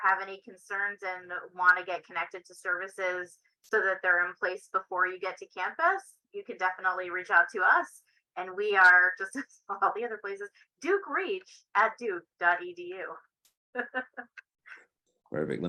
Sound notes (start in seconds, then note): 13.7 laughter